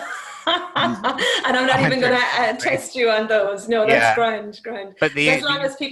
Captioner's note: laughing